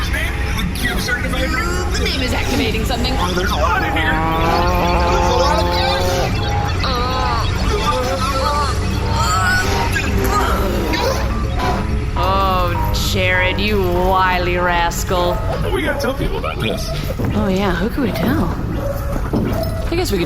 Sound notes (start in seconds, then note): 12.1 humming dies down